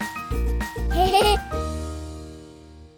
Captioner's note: laughter